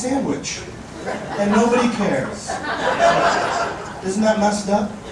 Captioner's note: audience laughing